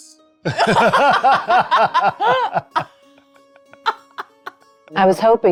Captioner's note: laughing